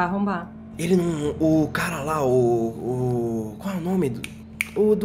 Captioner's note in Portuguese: som de dedos estalando